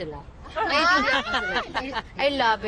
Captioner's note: all laugh